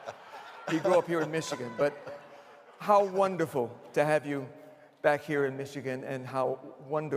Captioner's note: laughter